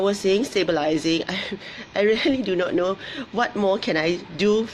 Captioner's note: laughs